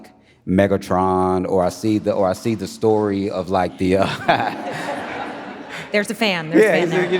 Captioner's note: audience laughing; laughs